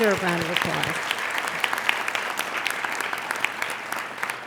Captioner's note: applauding